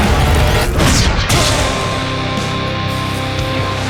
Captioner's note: groan; zap